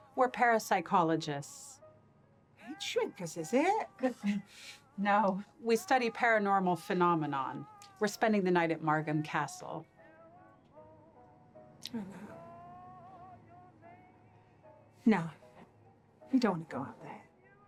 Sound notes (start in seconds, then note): 4.0 laughing; 12.0 quietly